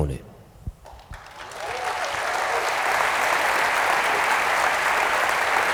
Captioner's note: applause